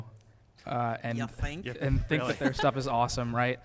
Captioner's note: laughter